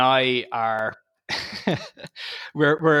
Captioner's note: laughing